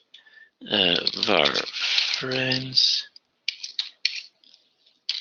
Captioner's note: typing